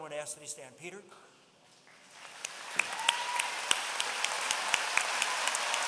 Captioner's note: applause